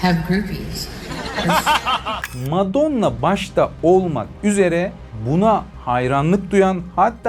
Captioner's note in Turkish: kahkaha